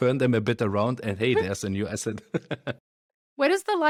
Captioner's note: laughs